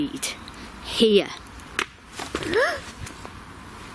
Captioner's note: gasps